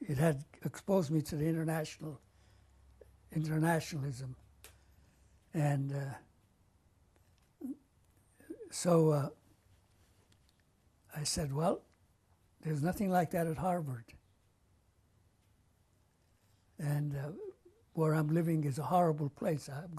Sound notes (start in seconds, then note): 6.2 pauses for 3 seconds